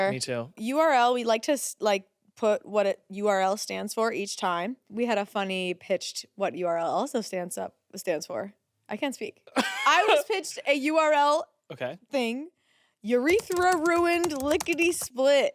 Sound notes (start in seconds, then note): 9.6 laughs